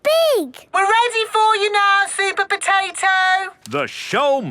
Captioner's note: through megaphone